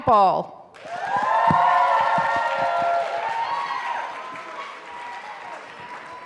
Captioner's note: audience cheering and applauding